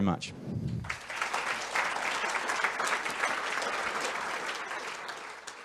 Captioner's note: audience applause